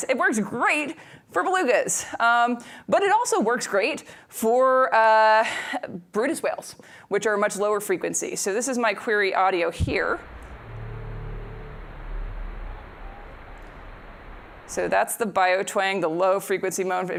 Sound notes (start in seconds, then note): 13.0 higher-pitched whale call